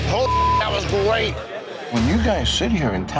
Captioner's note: beep